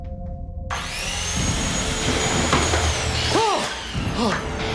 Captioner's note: saw whirls; yells out and gasps